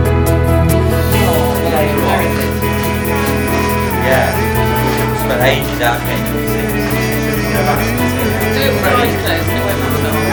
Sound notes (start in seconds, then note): 0.7 people chattering; 2.2 uplifting pop music